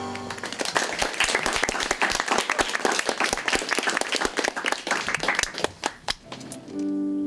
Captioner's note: applause